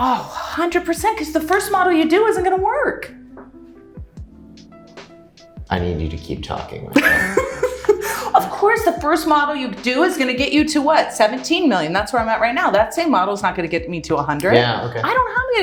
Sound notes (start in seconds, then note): 6.9 laughing